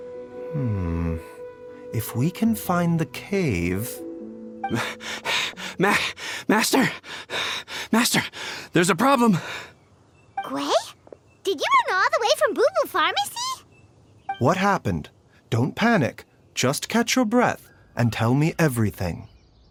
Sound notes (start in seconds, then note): 4.7 panting